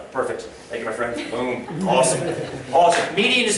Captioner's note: laughter